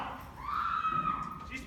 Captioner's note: scream